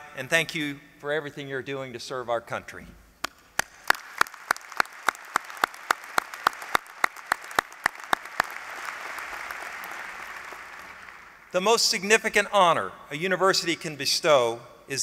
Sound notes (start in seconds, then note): 3.5 applause